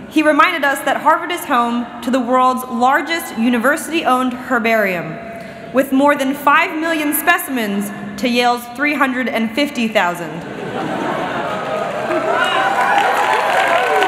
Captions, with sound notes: he reminded us that Harvard is home to the world's largest university owned herbarium with more than five million specimens to Yale's 350,000. [LAUGHTER] [CHEERING AND APPLAUSE]